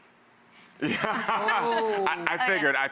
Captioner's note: laughs